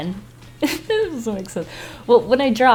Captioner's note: laughs